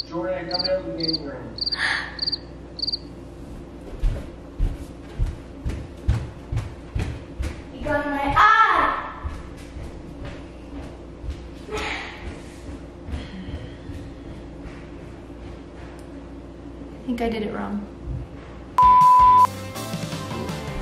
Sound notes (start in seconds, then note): 0.0 chirp sound; 2.8 chirp sound; 4.0 loud footsteps; 10.2 loud footsteps; 18.8 beep